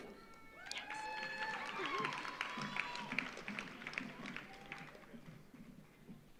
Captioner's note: audience cheers; audience applauds